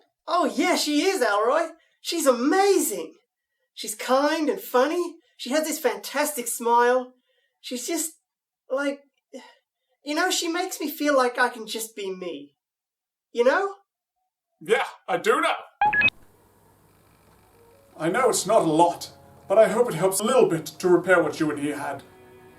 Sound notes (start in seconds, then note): 15.8 recording beeps off